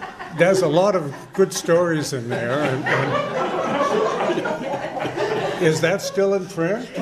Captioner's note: uncomfortable laughter